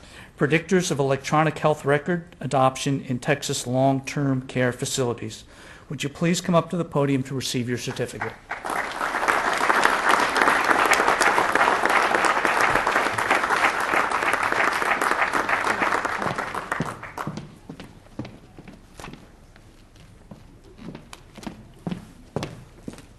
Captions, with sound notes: Predictors of Electronic Health Record Adoption in Texas Long-term care facilities Would you pleas come up to the podium to receive your certificate (applause)